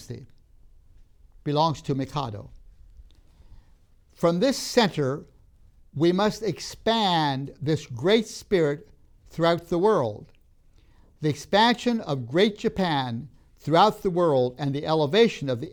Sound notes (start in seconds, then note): none